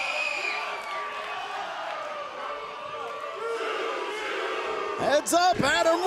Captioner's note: cheers and applause